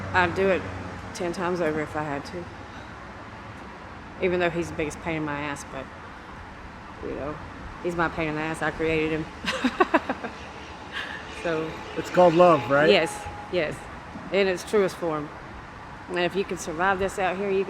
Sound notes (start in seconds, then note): 9.4 laughs